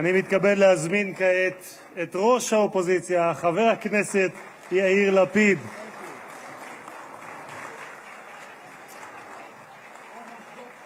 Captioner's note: applause